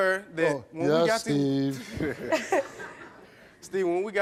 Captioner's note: laughs